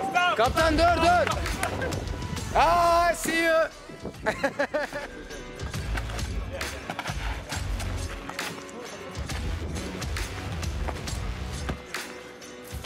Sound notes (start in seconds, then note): 0.1 foreign language; 4.1 man laughs